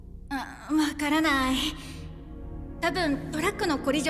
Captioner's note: stammers